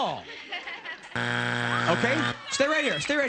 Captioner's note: buzzer